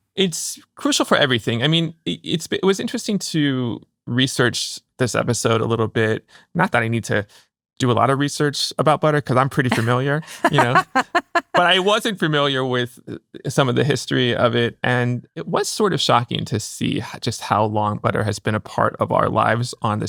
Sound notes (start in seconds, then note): 9.6 laughing